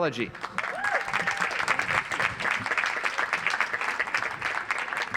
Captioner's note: audience applauds